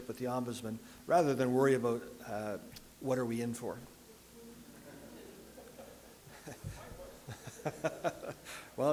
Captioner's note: audience and chuckle